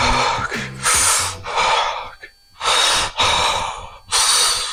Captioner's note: Demarcus breathes heavily